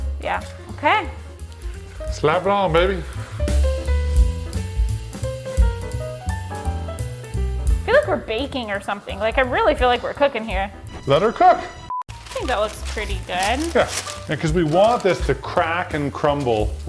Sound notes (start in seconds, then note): 3.2 jazz music; 11.7 beep